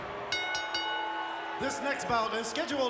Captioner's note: bell chimes